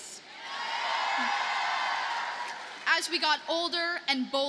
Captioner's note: audience cheers and applauds